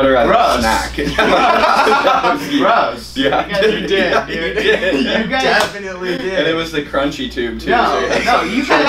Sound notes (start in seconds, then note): 1.0 laughter